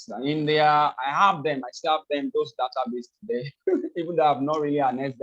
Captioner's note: laughs